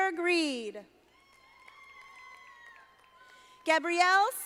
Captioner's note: audience applauding